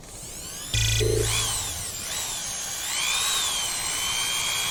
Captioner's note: electronic whirring